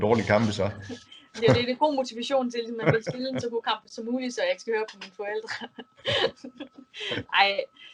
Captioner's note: laughs